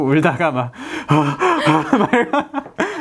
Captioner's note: hyperventilated